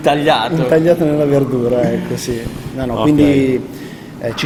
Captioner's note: laughing; laughing